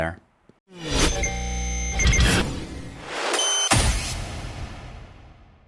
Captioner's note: cool sound effects